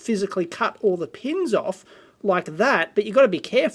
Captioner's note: none